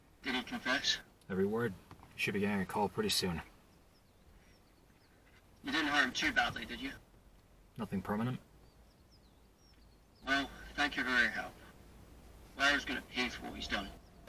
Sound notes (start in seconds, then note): none